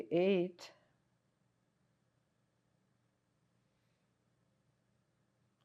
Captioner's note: pauses 6 seconds